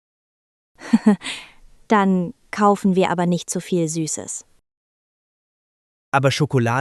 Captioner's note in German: laughs